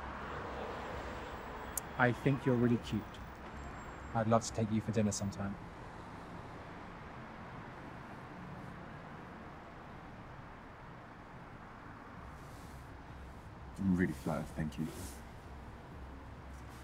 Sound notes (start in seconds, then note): none